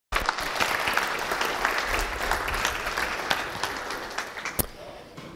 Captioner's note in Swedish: Applåder